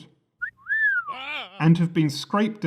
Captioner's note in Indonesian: Bersiul